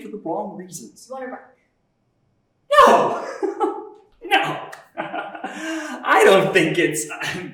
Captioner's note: laughter